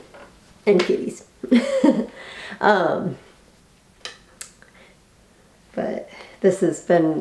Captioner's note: laughs